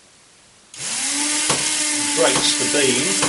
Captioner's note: motor whirrs loudly